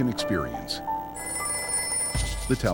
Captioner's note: phone rings